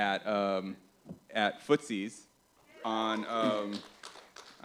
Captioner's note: applause